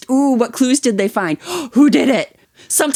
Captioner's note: gasp